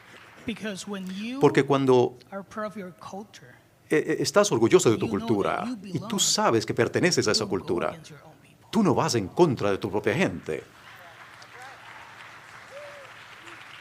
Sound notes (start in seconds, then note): 4.4 applause